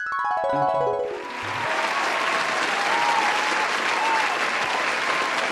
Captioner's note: crowd cheering